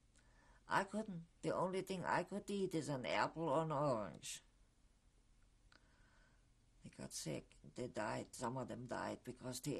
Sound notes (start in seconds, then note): 4.4 pauses for 3 seconds